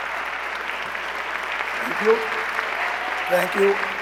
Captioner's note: cheers and applause